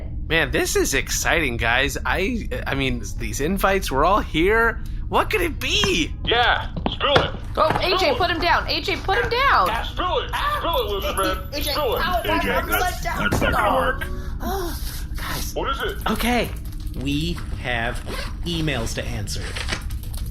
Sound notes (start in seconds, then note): 11.3 sputtering